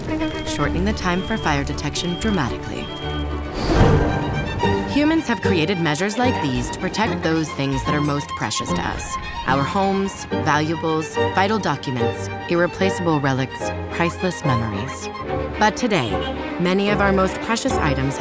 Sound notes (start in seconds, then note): 2.6 fire alarm beeping